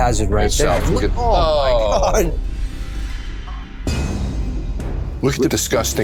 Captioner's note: both men exclaiming in disgust